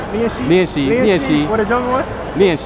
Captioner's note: mandarin